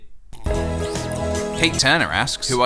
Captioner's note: slurp